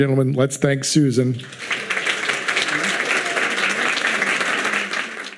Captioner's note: audience clapping